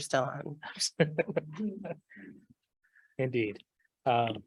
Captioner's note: laughing